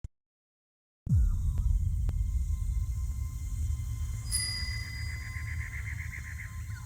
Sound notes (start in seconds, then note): 4.2 bell ringing; 4.8 birds squawking